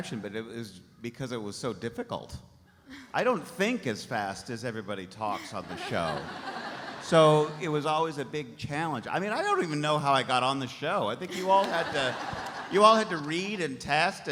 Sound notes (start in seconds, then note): 5.4 audience laughs